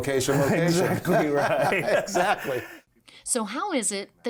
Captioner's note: laughs